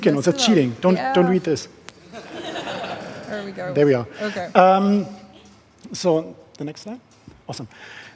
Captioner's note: laughing